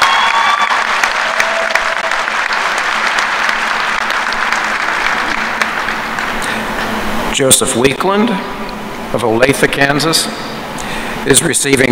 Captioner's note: applause